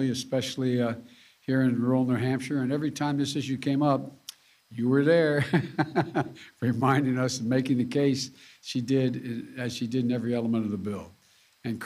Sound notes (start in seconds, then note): 5.4 laughs